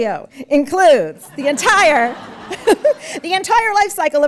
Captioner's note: audience laughs